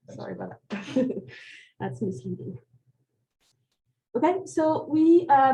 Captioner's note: chuckles